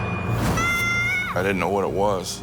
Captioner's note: Timmy screaming